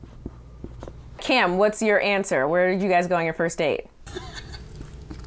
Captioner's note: laughs